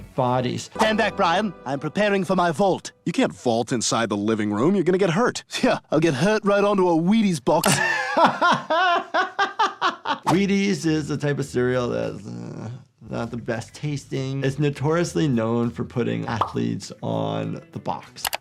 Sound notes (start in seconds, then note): 7.6 doctor laughs